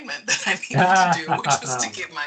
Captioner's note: laughing